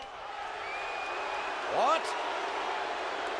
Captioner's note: audience jeers